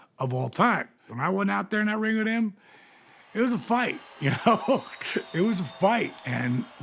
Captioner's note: applause